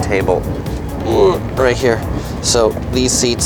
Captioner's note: grunting